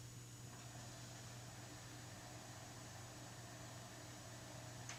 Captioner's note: reel whirring